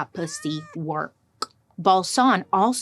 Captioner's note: cat meows